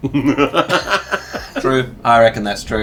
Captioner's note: laughing